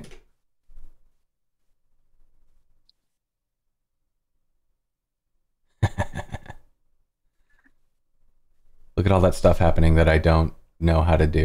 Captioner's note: evil laughter